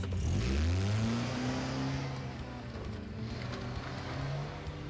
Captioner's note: engine rumbling